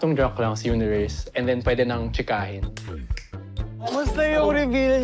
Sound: snaps fingers

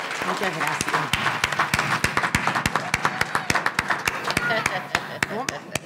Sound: audience applauding; speaking in a foreign language; laughing

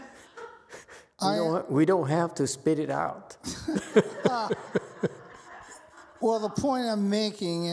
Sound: laughs, audience laughs

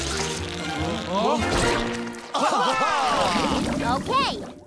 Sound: laughs

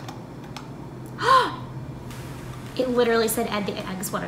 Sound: gasps

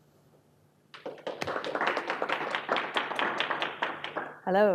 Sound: applause

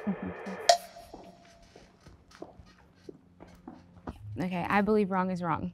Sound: footsteps clicking

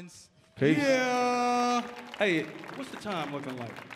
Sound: audience applauding

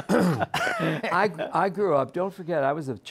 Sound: laughter

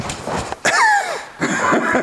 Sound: cough; wheeze; laughter

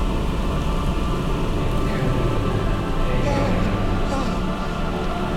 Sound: celestial voice

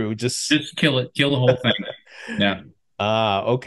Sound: laughs

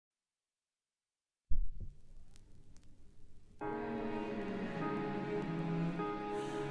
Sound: vinyl Sound

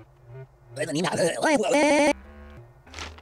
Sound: reverse talking, stuttering

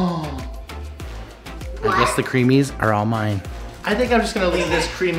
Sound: gasping

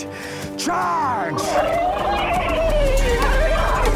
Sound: whinnying

